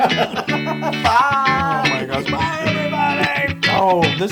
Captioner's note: laugh